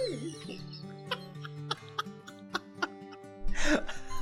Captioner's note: laughing